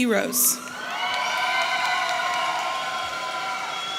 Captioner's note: audience cheering